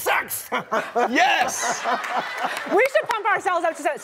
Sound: laughing

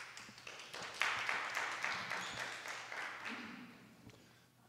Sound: applause

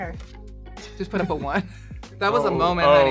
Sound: laughing

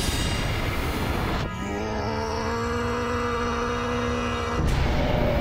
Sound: grunting

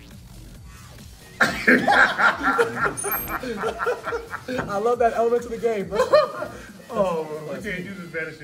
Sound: laugh

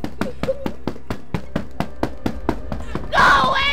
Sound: cardboard thudding

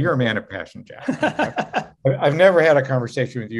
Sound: laughing

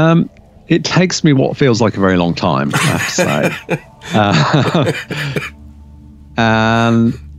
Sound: laughs

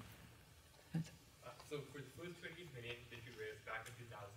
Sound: voiceover

